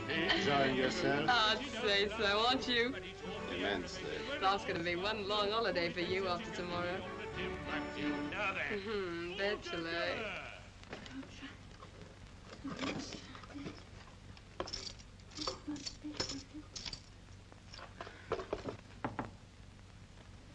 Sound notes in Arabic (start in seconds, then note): 8.0 يغني الفنان; 10.8 تتمتم; 14.5 أصوات البحث; 19.0 طرق خفيف على الباب